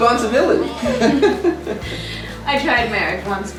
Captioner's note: both laughing